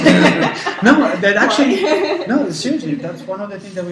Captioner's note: laugh